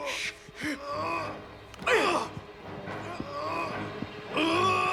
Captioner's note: Dalton grunts; both grunting